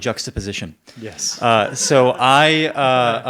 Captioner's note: audience member laughs